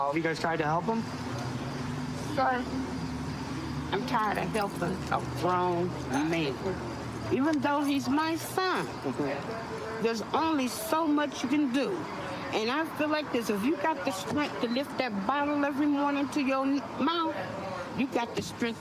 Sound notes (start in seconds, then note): none